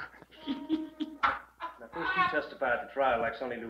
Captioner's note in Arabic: يضحك